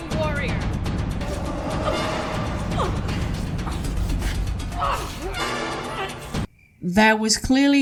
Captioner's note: fighting noises